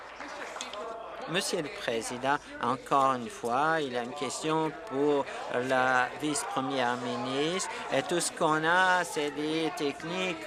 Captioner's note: applause